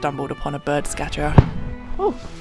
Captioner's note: bang